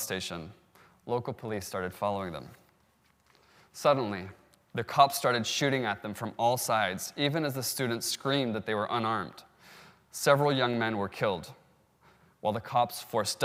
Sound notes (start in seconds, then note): none